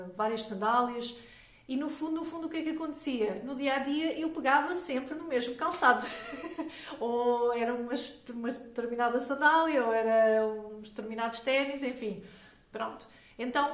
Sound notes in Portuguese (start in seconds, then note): 6.0 risadas